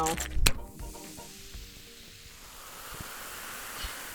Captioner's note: fizzing